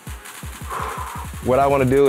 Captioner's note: upbeat music; exhales loudly